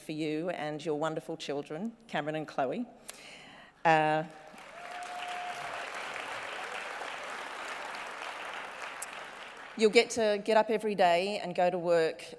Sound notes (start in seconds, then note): 4.4 cheering and applause